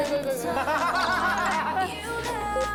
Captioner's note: laughing